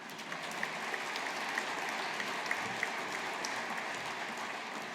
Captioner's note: audience applauding